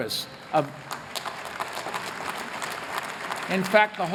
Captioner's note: applause